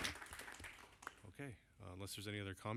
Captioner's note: applause